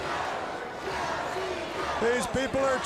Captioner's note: crowd cheering